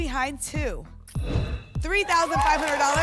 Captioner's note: whoosh